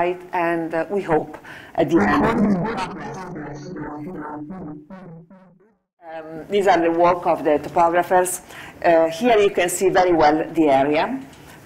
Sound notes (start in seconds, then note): 2.8 distorted speech